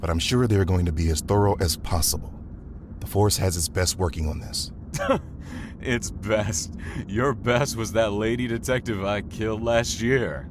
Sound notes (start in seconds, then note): 5.4 scoffs